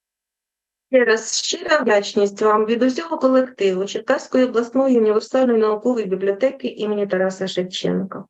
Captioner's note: foreign Language Spoken